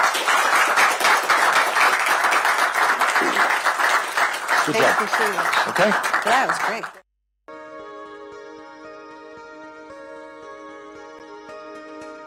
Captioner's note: applause